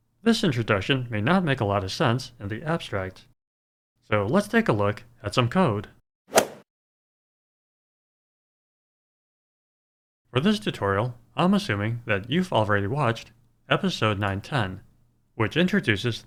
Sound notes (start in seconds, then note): 6.3 swoosh